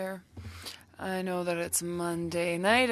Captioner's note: speaking French